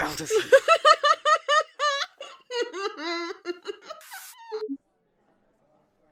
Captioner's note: Jesters manic laugh kicks in as the communicator abruptly ends